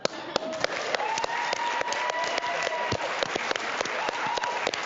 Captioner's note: audience applauding